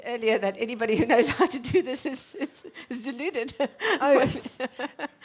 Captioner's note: laughs